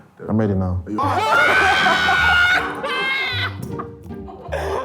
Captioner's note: laughs